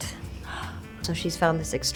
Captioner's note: Charlotte gasps